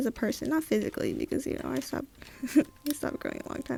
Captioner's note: laughs